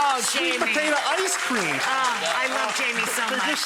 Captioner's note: audience applause